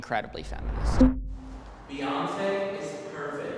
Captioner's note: electronic blip